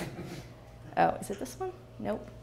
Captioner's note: laughs